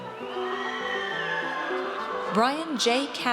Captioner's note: audience cheers